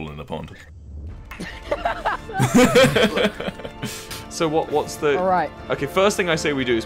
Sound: laughs

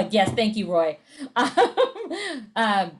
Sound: laughs

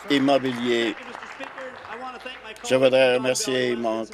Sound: applause

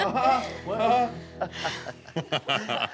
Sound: chuckling; sighing deeply; laughing

